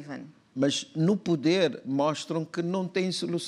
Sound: speaking portuguese

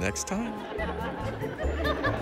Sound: laughter

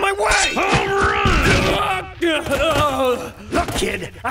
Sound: yelling in pain

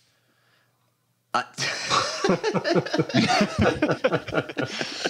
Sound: laughter

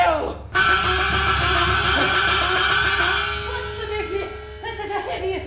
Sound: buzzing

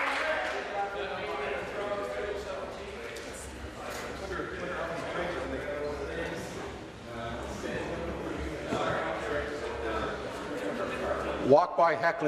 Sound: applause

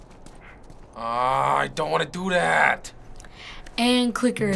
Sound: grumbling

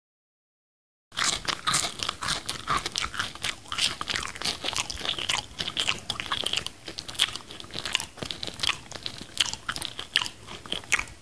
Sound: sound of munching

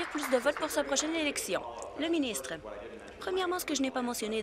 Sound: applause

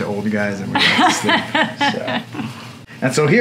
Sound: chuckling

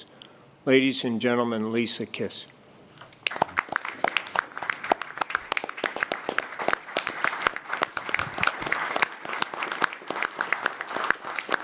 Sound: applause

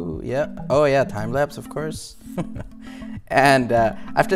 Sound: laughs

